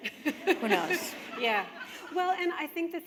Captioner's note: laughter